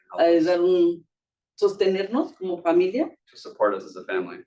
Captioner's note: speaking Spanish